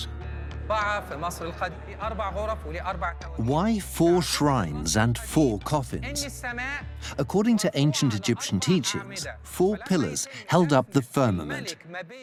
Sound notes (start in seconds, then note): 0.5 Arabic dubbed in English